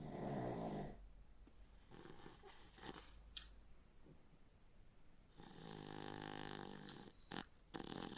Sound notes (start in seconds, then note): 4.9 Phil snoring